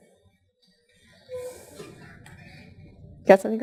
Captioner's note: pause